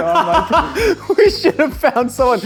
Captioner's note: laughs